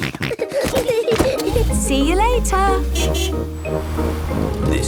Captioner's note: snorting; kids giggling; honking